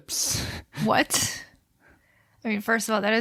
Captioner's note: laughs